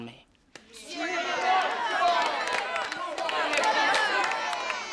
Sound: crowd shouting

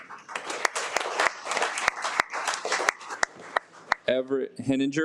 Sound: audience applauds

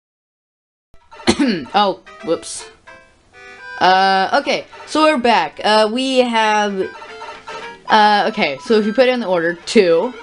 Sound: cough

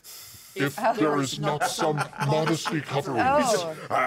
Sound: speaker laughs

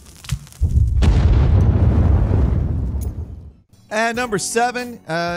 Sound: barrels explode

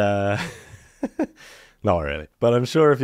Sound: laughs

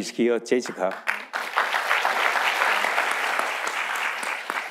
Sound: audience applauding

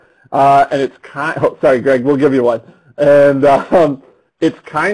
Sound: laughs

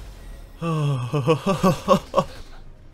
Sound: still amazed and chuckling

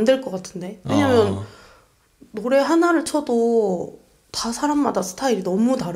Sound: laughs

